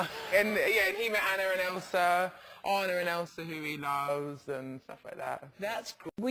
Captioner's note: laugh